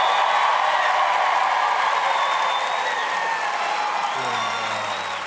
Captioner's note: applause